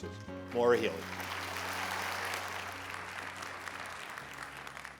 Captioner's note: applause